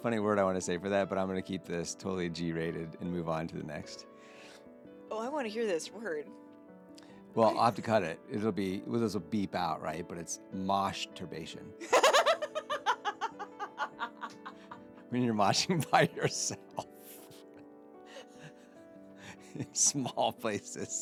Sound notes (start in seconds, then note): 11.8 laughing